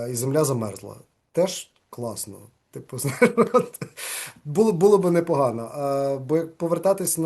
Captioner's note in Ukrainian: сміється